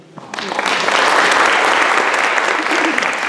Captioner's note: applause